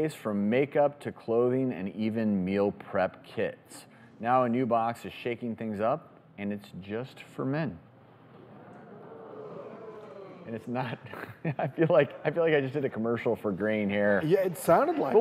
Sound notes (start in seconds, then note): 8.3 audience ooooh-ing; 11.0 chuckles